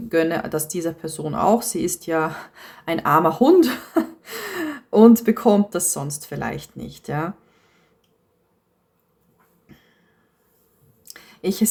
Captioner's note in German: gelächter